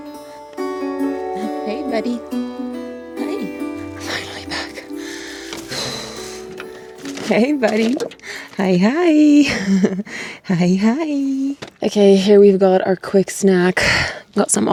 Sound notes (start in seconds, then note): 5.8 sighs; 9.3 chuckles